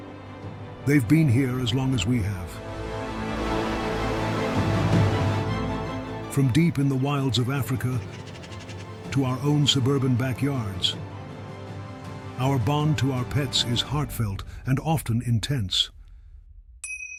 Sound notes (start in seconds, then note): 3.7 water sloshing; 7.2 birds squawking; 16.8 bell chiming